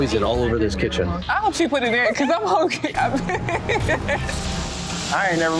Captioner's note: laughing